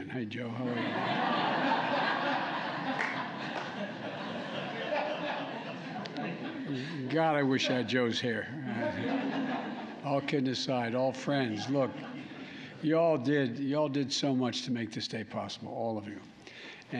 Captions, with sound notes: Hey, Joe. How are you? (Laughter.) God, I wish I had Joe's hair. (Laughter.) All kidding aside, all friends. Look, you all did -- you all did so much to make this day possible, all of you.